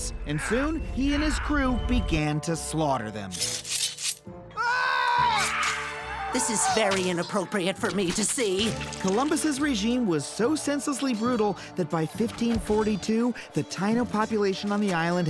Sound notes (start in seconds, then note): 4.5 people screaming